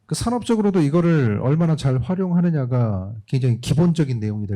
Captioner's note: speaking korean